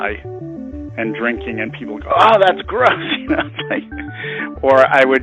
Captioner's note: laughs